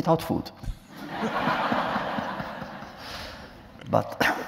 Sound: laughter

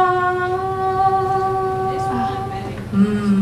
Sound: hums melody

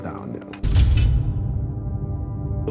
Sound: cell door closing

